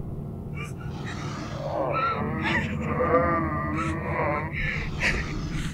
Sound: monster growling and moaning

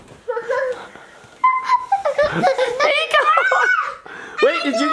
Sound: children playing

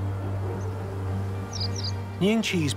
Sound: birds singing

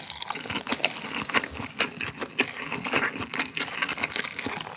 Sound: chowing down the rice

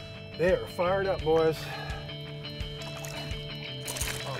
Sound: fish splashing

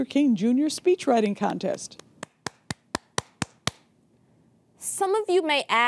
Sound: clapping

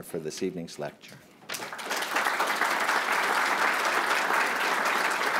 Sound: applause

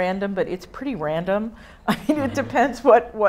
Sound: audience laughing

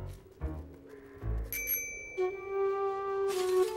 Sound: bell dings

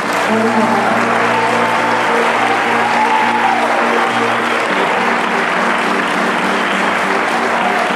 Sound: applause

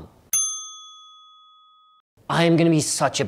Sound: bell chiming

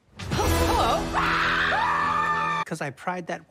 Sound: screaming

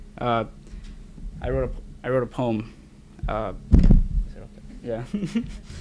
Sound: laughs

